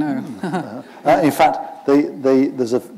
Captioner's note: chuckle